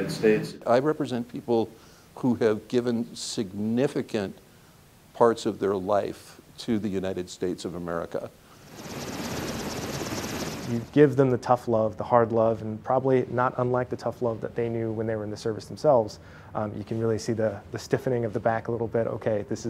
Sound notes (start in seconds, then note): 8.6 helicopter blades whirring